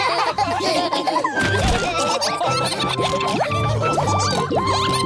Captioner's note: all laughing